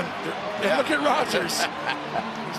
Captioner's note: Jim laughing